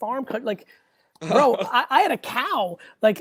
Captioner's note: laughs